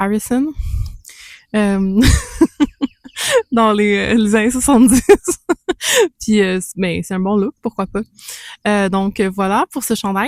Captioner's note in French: rires